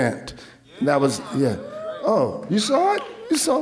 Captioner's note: audience cheering